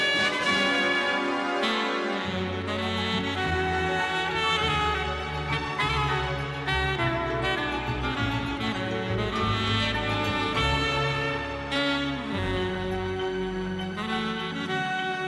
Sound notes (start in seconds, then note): none